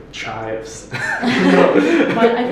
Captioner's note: laughter